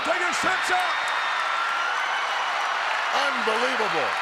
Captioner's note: audience cheers